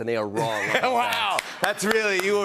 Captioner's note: laughs